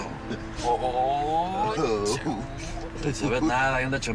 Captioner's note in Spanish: Exclamaciones